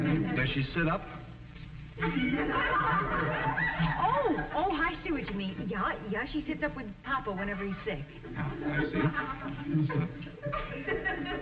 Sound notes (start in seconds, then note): 5.0 audience laughing